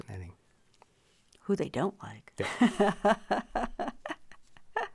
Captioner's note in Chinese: 笑~